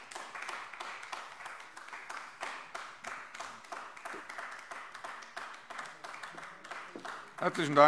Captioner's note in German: Anhaltender Beifall AfD